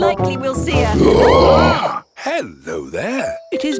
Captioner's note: roaring, screaming